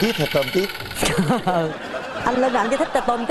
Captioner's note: laughing